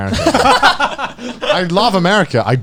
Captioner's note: chuckle